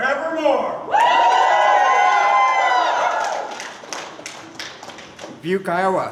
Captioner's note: cheering